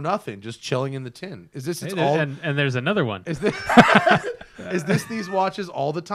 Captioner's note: laughs